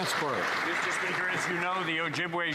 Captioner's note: some Applause